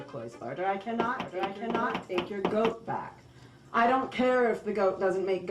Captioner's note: knocking